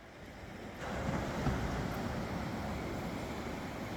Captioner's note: sound of waves on the beach below